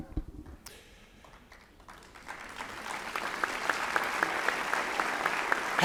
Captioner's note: applause